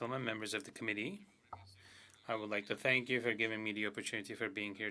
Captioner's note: speaking French